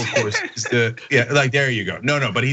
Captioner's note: laugh